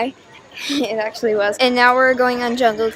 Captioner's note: laugh